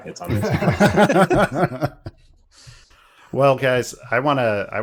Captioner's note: laughter